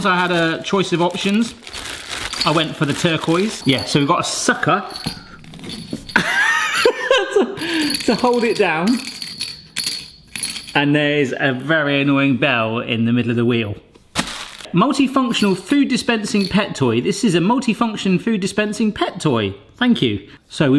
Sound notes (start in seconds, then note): 6.2 laughs; 9.2 bell jingling